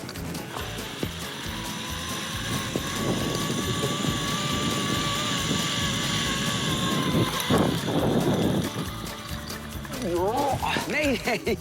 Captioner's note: rope whirring